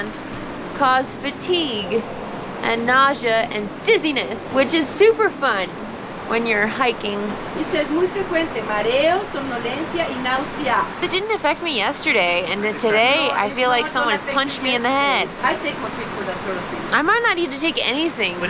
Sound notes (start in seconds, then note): 7.4 in Spanish